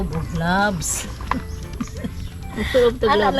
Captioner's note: chuckles